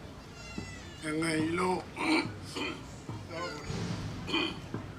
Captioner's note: coughs